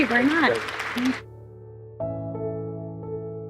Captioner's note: crowd clapping; inspiring music